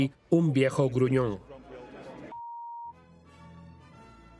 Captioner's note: beep; regal instrumental music